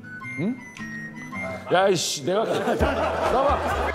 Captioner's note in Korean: 웃음소리